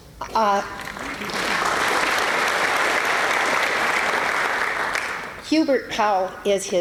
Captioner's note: applause